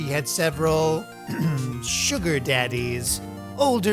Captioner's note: ahem